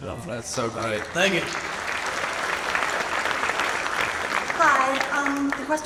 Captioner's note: audience applauds